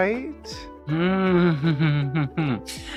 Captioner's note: laughing